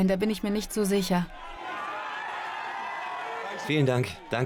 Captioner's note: crowd cheering